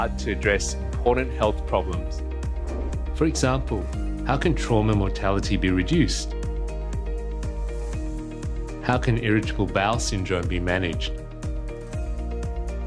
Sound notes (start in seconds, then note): 2.5 air whooshing